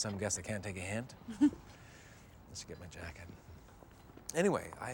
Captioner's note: chuckles